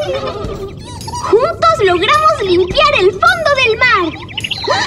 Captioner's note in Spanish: Risas; Sonido de pájaro